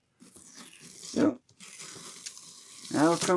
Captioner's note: tape tearing